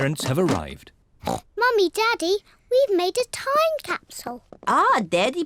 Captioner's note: oinks